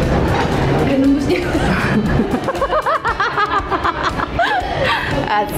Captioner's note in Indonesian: Ketawa